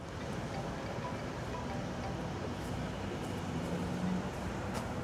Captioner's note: cell phone ringing